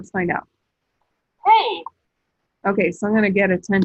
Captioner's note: iPad voice